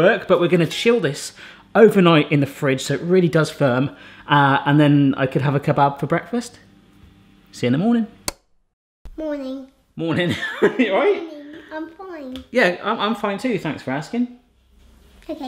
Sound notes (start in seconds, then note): 10.7 laughs